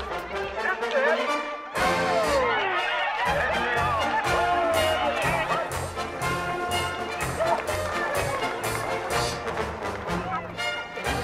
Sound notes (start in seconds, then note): 3.8 crowd cheers; 3.8 festive music plays